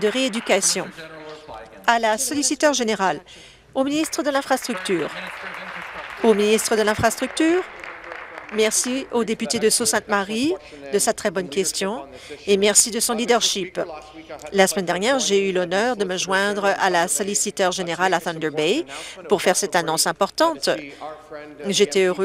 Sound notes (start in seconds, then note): 7.2 applause